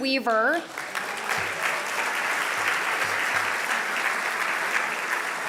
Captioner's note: audience applauding